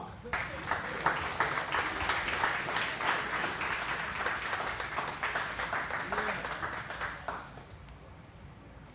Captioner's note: applause